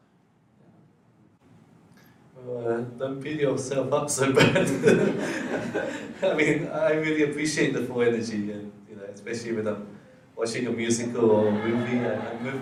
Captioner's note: laughs